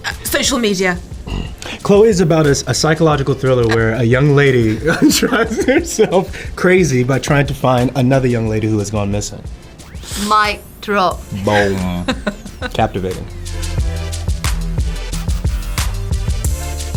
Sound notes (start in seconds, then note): 0.0 chuckles; 4.5 chuckles